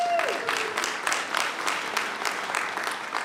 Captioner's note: applause